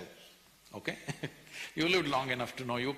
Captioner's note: laughs